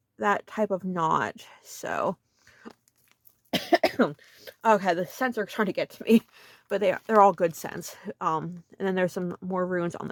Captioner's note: coughs